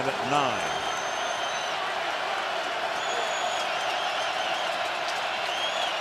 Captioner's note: crowd cheering